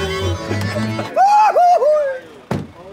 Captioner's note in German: Jauchzen